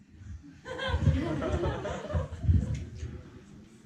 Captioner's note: laughter